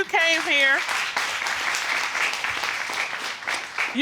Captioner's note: audience applauding